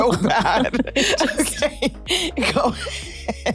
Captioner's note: chuckles